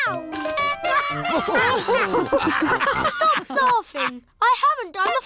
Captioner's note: toots horn; all laugh